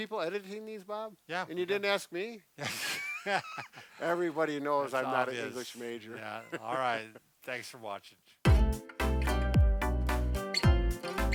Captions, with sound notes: - You got people editing these Bob? - Yeah. - And you didn't ask me? (both laughing) - Everybody knows I'm not an English Major. All Right. Thanks for watching. (upbeat music)